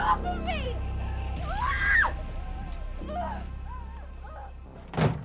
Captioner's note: screams